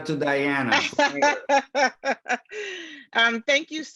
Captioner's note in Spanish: laughs